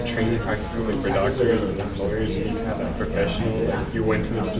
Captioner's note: classroom chatter